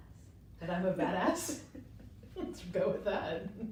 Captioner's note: chuckles; women chuckling